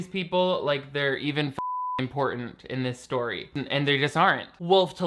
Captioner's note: beep